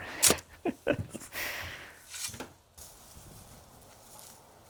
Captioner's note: narrator laughing